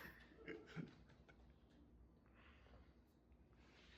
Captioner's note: laughs